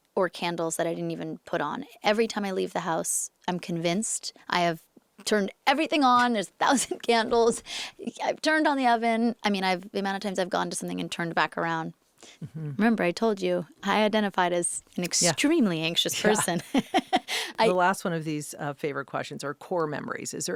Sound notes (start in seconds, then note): 16.1 laughs